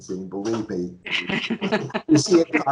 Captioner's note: laughing